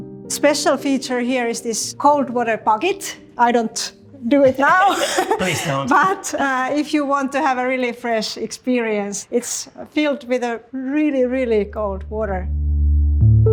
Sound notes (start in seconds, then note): 4.3 chuckling; 12.4 tranquil music